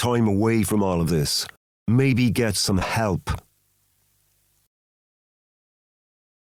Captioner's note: long silence